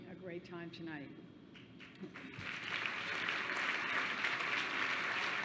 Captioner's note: applause